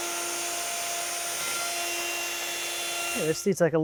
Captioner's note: sander whirring